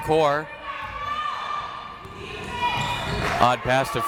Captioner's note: crowd members shouting